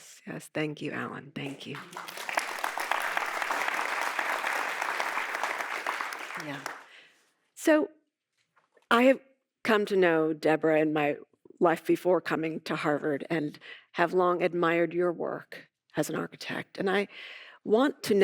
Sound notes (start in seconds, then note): 3.2 audience applauding